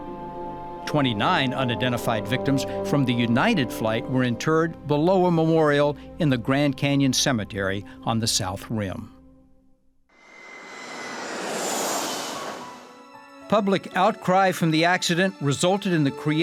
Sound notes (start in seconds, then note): 10.2 engine roaring